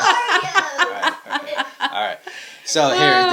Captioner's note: laughing